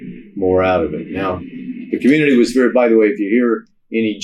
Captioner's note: jet engine revving